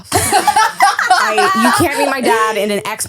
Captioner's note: laughing